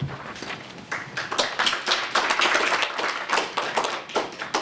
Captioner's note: applause